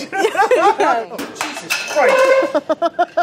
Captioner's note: laughs; laughs; laughing